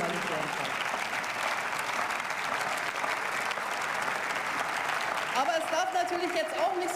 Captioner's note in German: Beifall